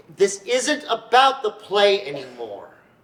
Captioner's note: none